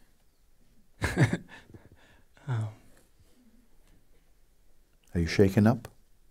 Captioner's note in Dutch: vraagsteller lacht